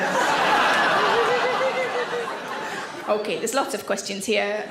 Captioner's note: audience laughs